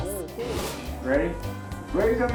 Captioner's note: image whooshes